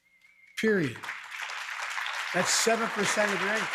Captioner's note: applause